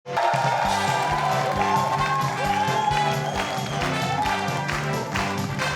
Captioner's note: audience applauding; instrumental music